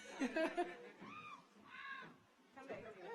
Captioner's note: audience laughs